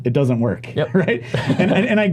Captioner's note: laughs